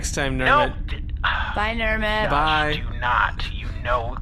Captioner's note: sighs